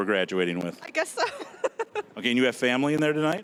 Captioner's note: laughing